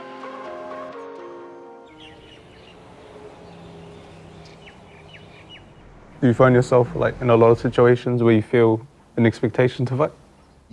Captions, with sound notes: (Birds chirping) - Do you find yourself in a lot of situations where you feel an expectation to fight?